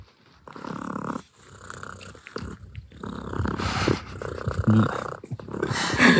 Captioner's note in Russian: урчит